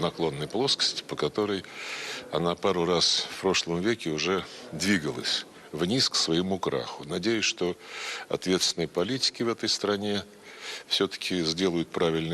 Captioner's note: speaking russian language